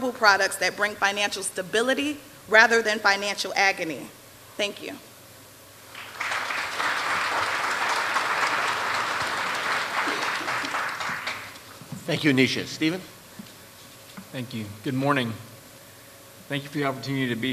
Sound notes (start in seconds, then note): 5.9 applause